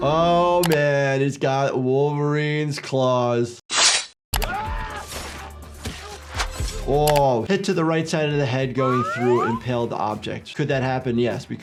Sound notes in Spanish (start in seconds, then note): 4.4 Deadpool gritando